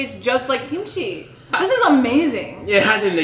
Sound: laughs

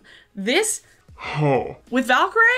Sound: groans

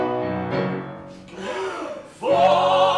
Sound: all take a big breath

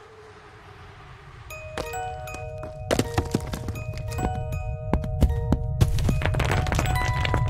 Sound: unsettling music; fire crackling

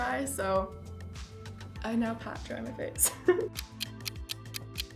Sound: laughs; clock ticking

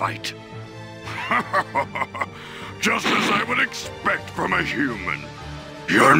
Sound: evil laugh

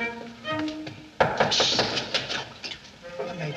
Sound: knock, Knock, Knock, Knock

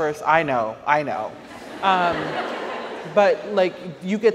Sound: audience laughs

